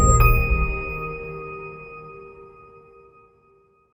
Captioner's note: bell chimes